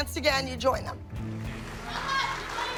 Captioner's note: applause